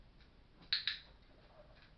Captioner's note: click